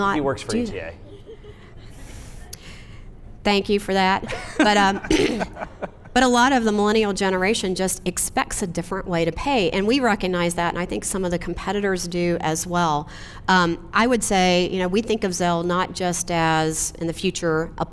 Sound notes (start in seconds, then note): 1.1 audience laughs; 4.3 laughs